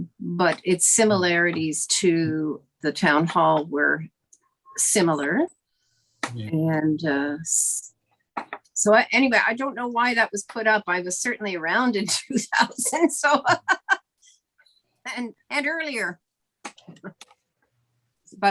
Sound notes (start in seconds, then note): 13.2 laughing; 17.1 laughing